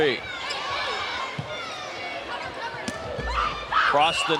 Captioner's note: audience shouting